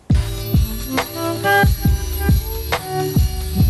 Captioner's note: saw buzzes